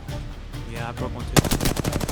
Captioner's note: echo